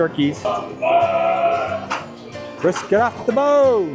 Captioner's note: employees screaming about meat, again